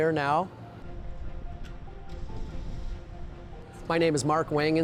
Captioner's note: air whooshing